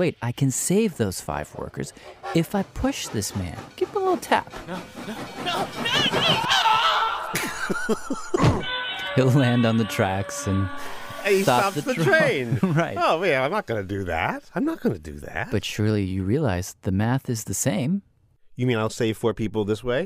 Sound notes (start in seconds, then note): 7.2 laughs